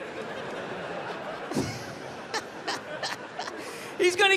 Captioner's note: crowd laughs